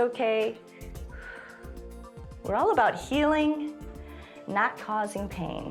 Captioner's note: exhales; exhales